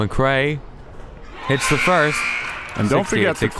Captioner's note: buzzer